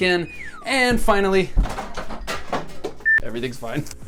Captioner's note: clattering in background